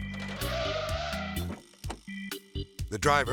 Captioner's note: tires screeching